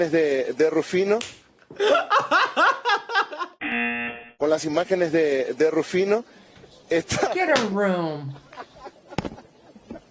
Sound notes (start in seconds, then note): 1.0 buzzer; 2.1 claps and laughs; 8.4 reporter laughs